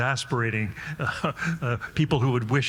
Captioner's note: chuckles